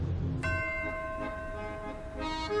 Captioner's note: bell tolls; bright accordion music